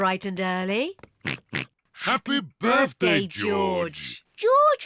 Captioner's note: oinks